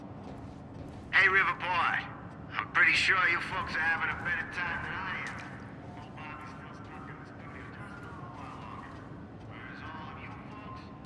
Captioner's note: on the radio